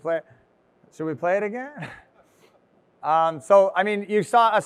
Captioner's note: chuckles